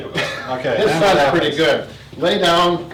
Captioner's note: laughs